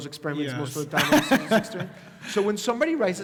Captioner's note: laugh